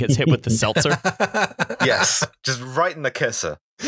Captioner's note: laughter; pow